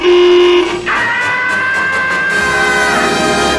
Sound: terrified scream

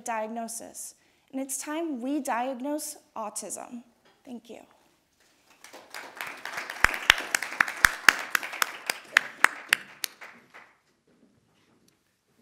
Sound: audience applauding

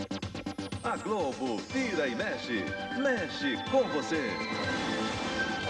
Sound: man speaking portuguese

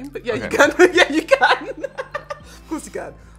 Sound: laughs

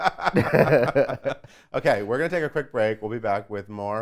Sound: laughs

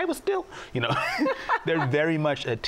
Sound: laughs

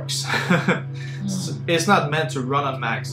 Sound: laughs

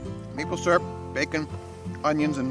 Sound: bird chirping

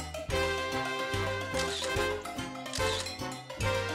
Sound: camera clicking

